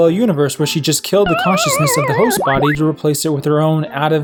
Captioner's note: Death sound from Pac-Man